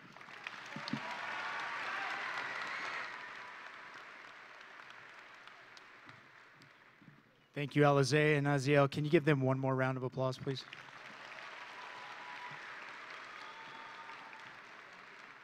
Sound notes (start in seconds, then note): 0.0 audience and graduates applauding; 1.8 audience and graduates cheering; 10.6 audience and graduates applauding